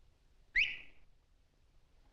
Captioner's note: whistle